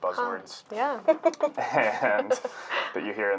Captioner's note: laughing